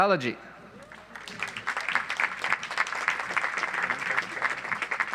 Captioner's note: audience applauds